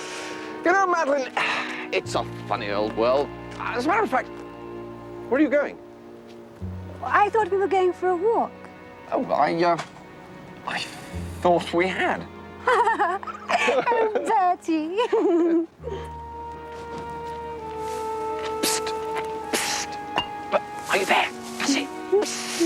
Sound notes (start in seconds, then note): 12.6 she laughs